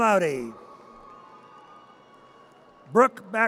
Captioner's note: audience cheers